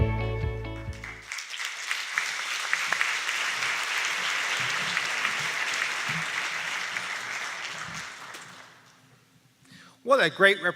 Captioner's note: applause